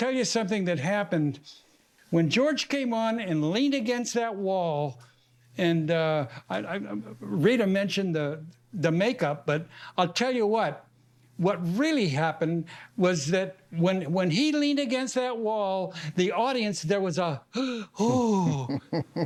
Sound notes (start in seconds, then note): 17.5 gasps